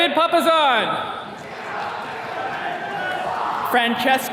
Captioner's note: attendees cheering